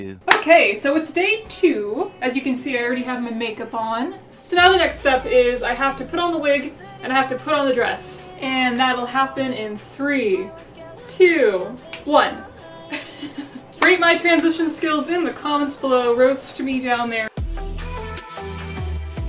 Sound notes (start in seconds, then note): 11.4 snap; 12.7 laughs